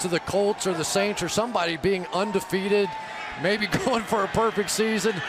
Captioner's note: crowd cheering